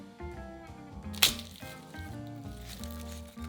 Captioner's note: garlic paper rustling